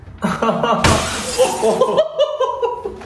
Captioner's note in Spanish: se rie; risas